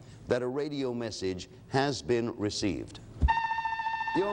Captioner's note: alarm sounds